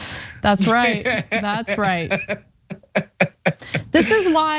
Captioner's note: laugh